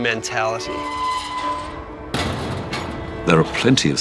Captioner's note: metal squealing